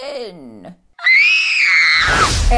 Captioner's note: screaming